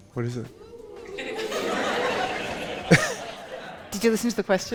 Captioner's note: audience laughing